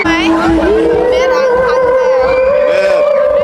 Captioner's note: laughing